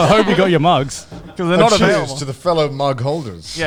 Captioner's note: all laughing